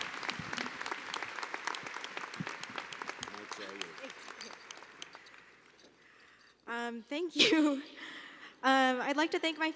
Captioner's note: applause